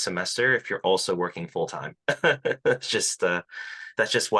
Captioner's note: laughs